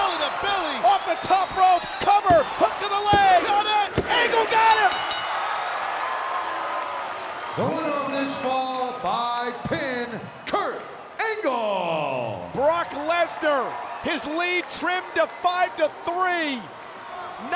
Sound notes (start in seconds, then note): 4.6 bell rings; 5.6 audience cheers